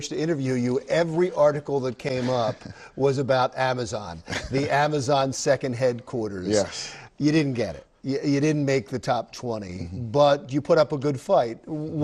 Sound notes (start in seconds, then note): 4.2 laughs